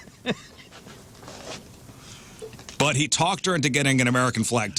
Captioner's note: laughing